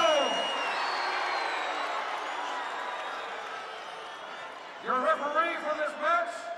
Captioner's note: applause